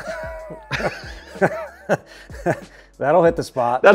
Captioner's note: laughing